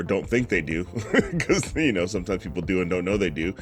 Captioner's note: laughs